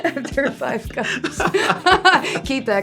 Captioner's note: laugh